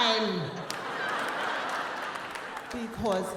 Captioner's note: audience laughing and clapping